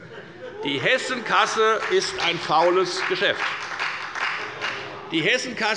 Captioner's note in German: Beifall bei der FDP und bei Abgeordneten der SPD